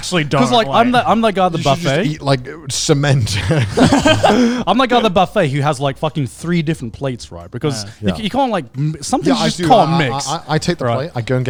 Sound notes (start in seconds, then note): 4.2 laughs